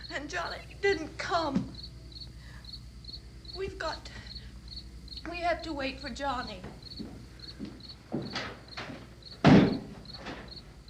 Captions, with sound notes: and Johnny didn't come. We have to wait for Johnny. (insects chirping)